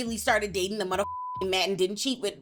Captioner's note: beep